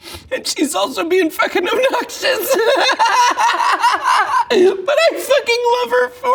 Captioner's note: laughs